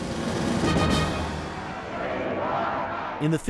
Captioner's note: chanting "we like ike"